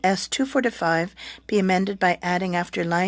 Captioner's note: speaking french